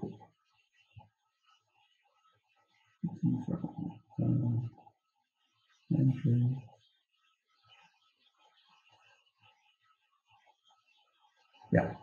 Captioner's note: silence